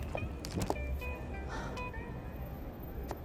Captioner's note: Eloise sighing